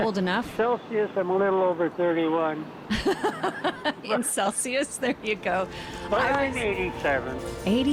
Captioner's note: laughs